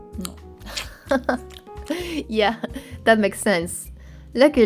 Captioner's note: laughs